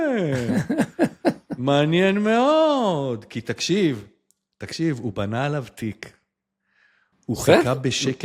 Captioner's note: laughter